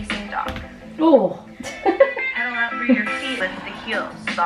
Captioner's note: person laughing